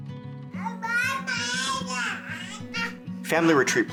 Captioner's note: boy babbling